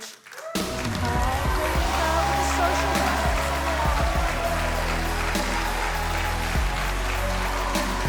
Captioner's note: audience cheering; cheerful music